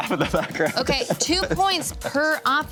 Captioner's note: laughs